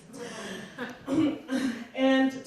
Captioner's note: scattered laughing